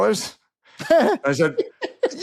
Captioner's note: laughs